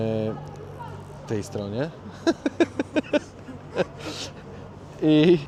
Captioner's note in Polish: śmiech